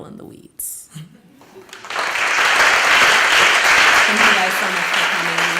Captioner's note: applause